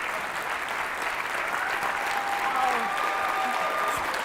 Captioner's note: cheering